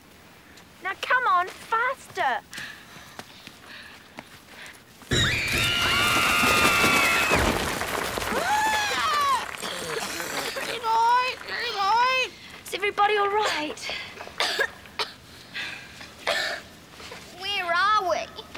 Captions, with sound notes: Now come on, faster. (screaming) (coughing) (squawking) Is everybody all right? (coughing) - Where are we?